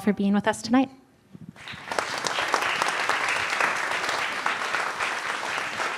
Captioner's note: applause